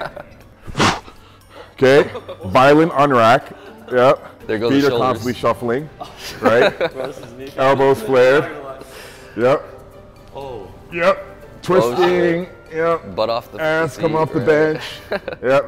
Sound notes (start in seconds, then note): 0.7 sharply exhaling; 1.9 laughing